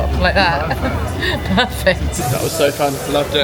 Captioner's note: laughing